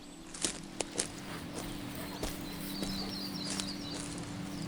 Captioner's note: walking through grass